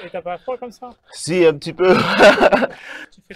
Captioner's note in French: rire